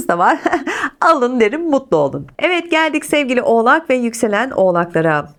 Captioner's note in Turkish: kahkaha